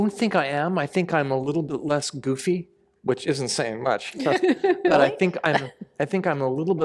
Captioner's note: laughter